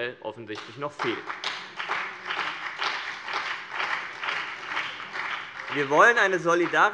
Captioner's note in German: Beifall BÜNDNIS 90/DIE GRÜNEN und vereinzelt CDU